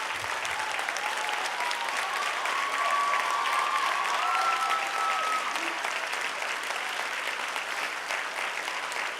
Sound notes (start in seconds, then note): 0.9 clapping; 4.2 cheering